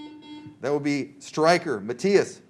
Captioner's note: buzzer